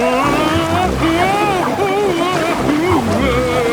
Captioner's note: Daddy Pig shouting